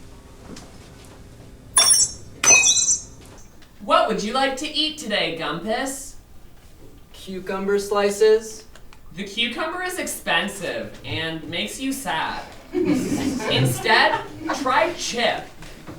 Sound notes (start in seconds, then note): 1.8 digital bzeep; 1.8 digital bzoop; 3.7 robot voice